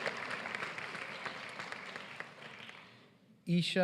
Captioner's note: applause